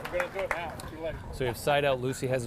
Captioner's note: audience applauding